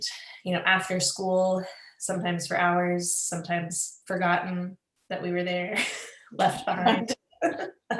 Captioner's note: laughs